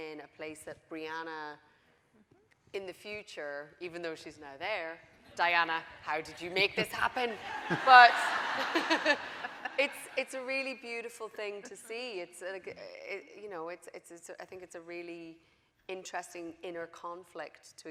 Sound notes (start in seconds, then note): 7.3 audience laughing